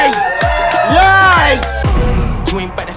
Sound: sound of cheering

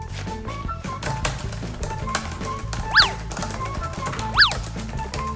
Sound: laptop keys clicking

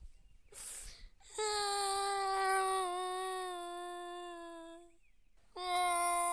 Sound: crying

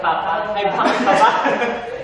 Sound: laughs

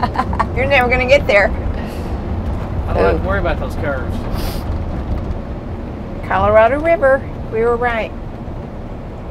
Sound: laughter

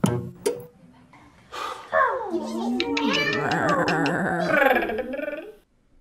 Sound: disappointed animal sounds

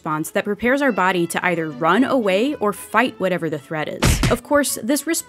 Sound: punches

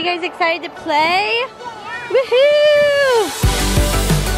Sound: cheering; upbeat music

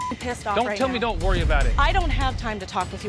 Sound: beep; beep

